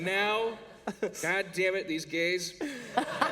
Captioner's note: laughter